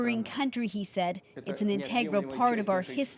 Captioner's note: speaking Foreign Language